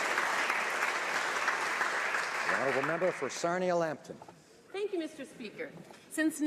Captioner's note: applause